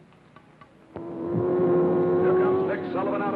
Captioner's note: car revving